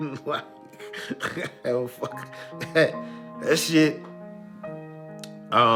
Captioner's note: laughing